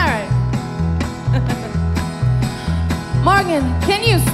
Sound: laughs

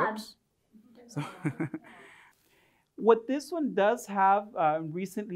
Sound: chuckles

